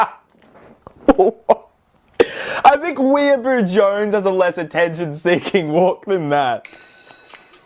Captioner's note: laughs